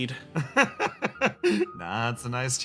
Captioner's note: laugh